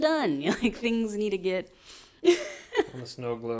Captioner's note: laughs